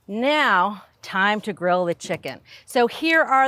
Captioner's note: none